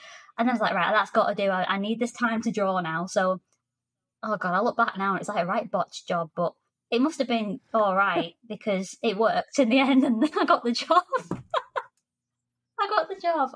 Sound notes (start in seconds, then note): 10.9 laughter